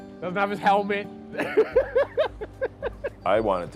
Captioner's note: laughing